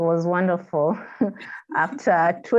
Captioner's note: both laughing